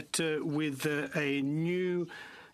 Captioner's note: speaking french